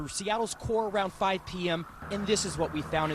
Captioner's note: sirens